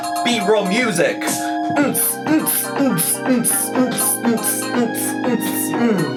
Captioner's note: mimicking music